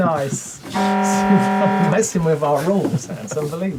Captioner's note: laughing